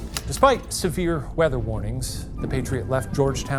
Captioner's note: projector clicking; thunder booming